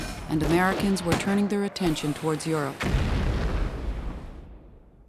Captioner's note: bomb exploding